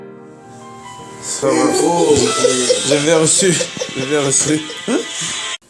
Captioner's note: some laughter after the end of the conversation